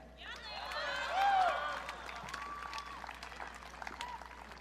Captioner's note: audience cheering